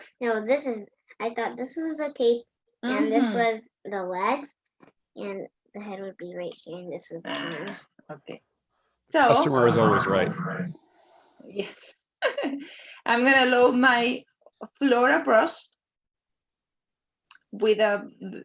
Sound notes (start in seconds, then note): 12.5 laughs